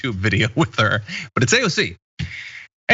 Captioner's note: laugh